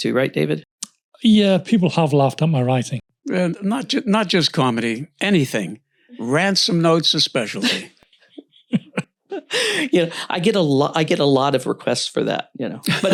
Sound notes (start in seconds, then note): 7.5 laughs; 12.8 laughs